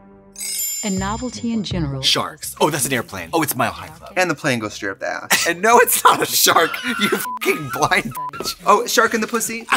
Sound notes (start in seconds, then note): 7.2 beep